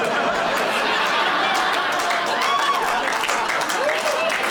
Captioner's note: laughter; applause